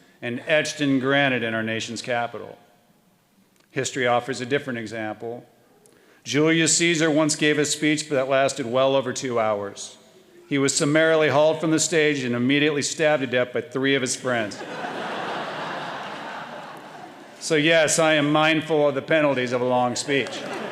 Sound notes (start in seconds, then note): 14.5 audience laughing